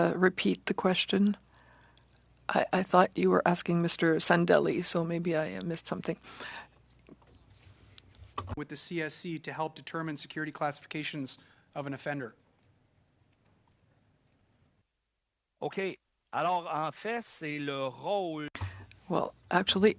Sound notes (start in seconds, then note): 3.1 speaking french